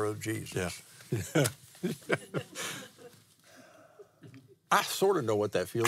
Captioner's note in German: lacht